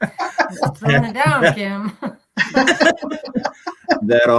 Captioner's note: laughter